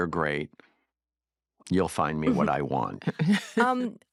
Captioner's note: chuckles